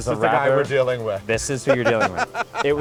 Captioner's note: laughs